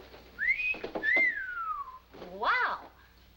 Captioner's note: whistles